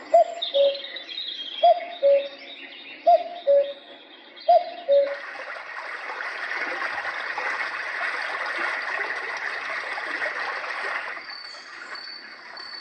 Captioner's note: various fan sounds